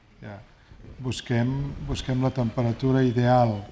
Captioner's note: speaking spanish